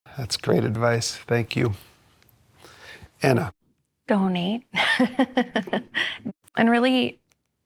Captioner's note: laughter